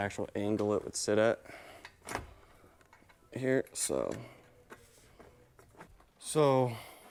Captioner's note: metal thumping